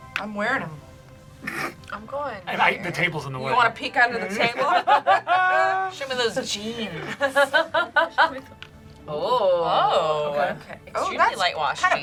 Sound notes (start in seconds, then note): 1.6 laughs; 4.2 group laughs; 8.0 laughs